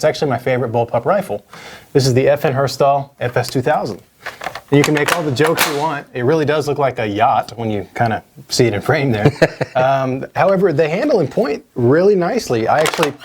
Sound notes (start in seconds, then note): 9.2 laughs